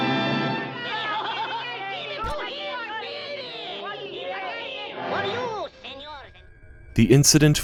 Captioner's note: music from tv; crowd cheering